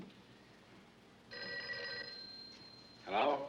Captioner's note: telephone rings